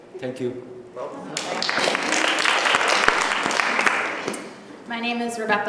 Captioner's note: applause